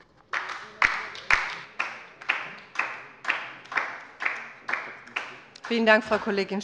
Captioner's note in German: Beifall bei der LINKEN